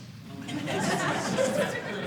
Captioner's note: audience laughing